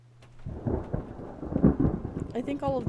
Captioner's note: thunder Rumbling